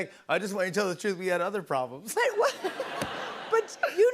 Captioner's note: laughter